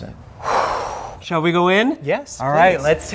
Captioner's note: long exhale